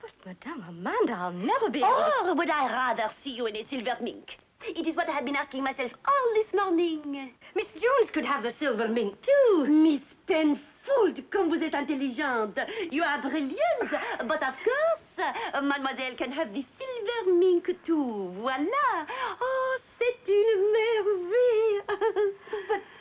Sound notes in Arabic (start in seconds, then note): 10.4 تتحدث بلغة أجنبية